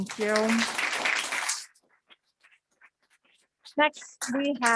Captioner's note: audience clapping